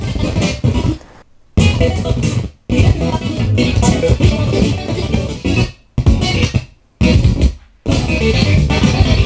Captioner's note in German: Stotternde Wiedergabe